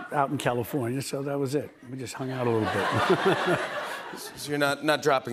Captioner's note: laughs